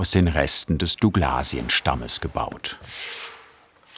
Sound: none

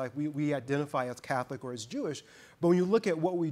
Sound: none

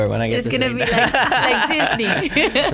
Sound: laughs

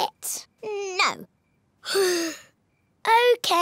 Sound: sighs

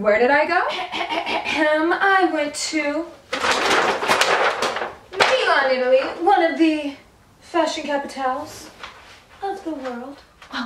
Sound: coughing

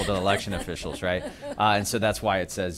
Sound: laughter

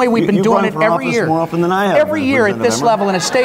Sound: audience laughs

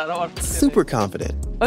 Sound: speaks, a smile in his voice

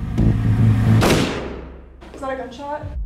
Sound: suspenseful music; gunshot

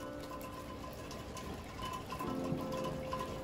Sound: rain sound

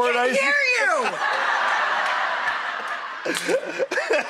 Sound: laughing

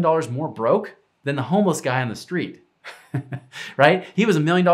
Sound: chuckles

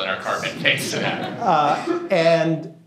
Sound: laughter

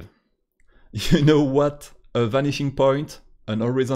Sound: laught

